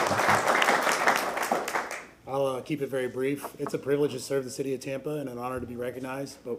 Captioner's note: applause